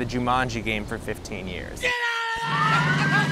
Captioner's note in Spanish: gritando